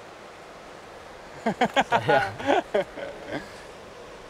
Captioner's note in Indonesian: tertawa